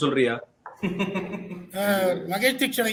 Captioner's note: laughs